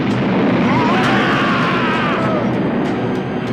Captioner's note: screaming